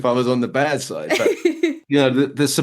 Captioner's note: laughing